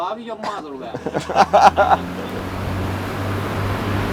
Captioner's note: laughs